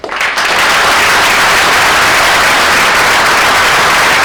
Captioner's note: audience applauds